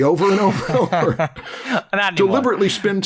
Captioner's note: laughter